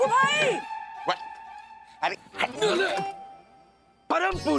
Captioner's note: grunting